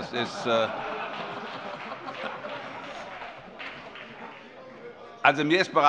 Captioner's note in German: Vereinzelte Heiterkeit und Beifall